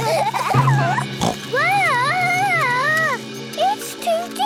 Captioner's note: children giggling; snorts